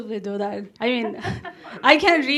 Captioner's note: audience laughs